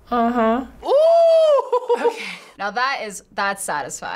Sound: laughs

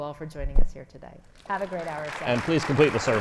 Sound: audience applauds

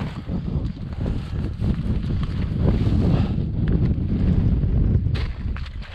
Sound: wind whooshing; footsteps crunching

